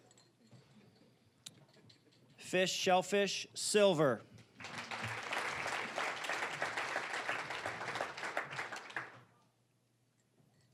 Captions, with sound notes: Fish/shellfish, silver. (applause)